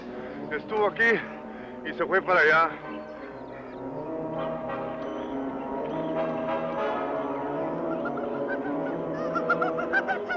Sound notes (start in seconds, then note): 0.5 speaking in foreign language; 6.6 tense orchestral music